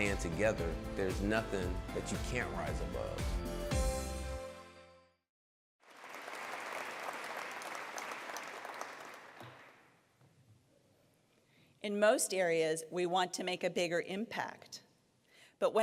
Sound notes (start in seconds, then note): 3.7 upbeat music; 5.8 applause